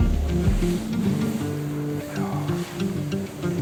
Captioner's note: whispers